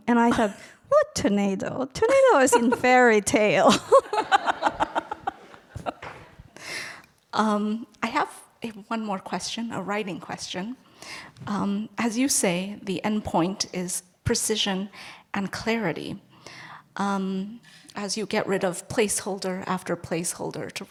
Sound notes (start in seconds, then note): 3.7 laughs